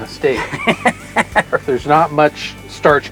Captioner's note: laughter